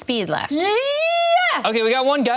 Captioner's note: screams